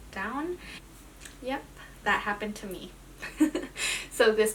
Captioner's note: laughs